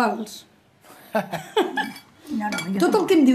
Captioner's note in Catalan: riu